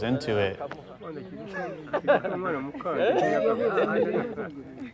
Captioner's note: chattering In Kinyarwanda